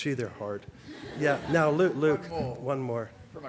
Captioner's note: laughter